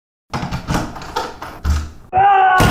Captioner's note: door unlocking; intense screaming